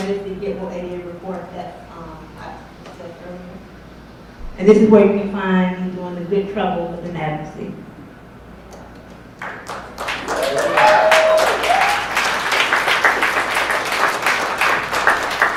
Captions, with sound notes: And that is the GetWokeADA report that I touched on earlier. And this is where you can find me doing the good trouble within advocacy. (audience cheers and applauds)